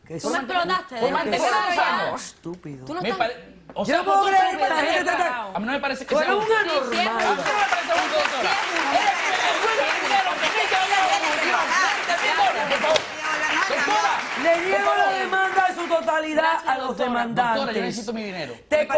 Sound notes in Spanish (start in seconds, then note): 9.9 aplausos